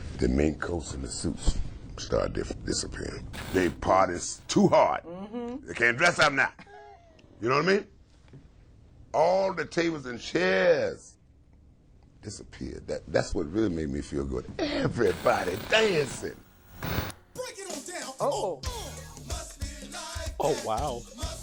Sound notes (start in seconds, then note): 6.6 giggles; 15.0 static hums